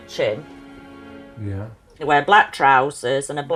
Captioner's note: voiceover